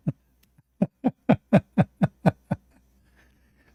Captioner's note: Ketawa